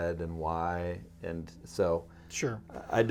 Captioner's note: clears throat